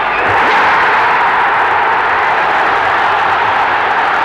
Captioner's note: crowd roaring